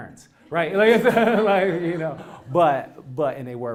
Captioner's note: laugh